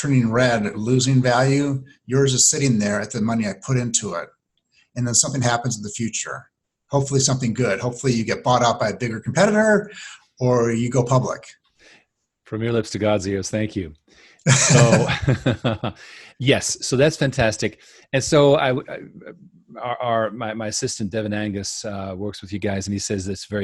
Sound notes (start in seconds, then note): 14.4 both chuckling